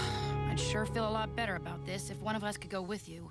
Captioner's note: sighs